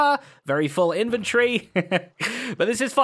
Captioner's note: chuckles